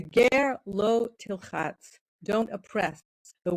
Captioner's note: speaking in foreign language